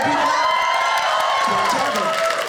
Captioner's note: audience cheers